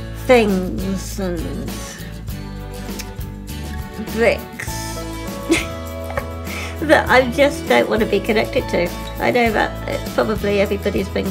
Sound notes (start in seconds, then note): 5.4 laughs